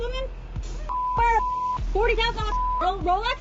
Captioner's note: beeps